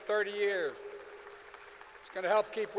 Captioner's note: applause